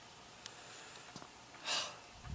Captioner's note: sigh